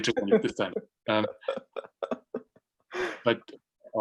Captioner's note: laughs